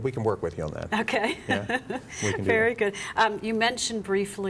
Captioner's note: laughing